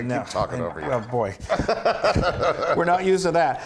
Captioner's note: laugh